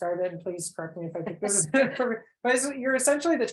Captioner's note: laughs